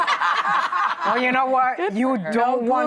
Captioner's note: laughing